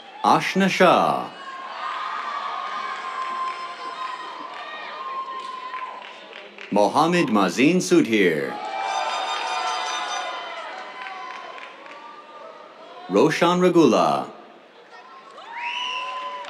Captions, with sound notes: Aashna Shah. [CHEERS, APPLAUSE] Mohamed Maazin Sudheer. [CHEERS, AIR HORN] Roshan Regula. [CHEERS, APPLAUSE]